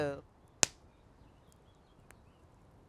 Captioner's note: flames pops